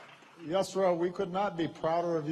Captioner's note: applause